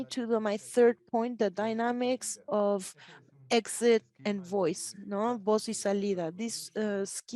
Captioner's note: speaks Spanish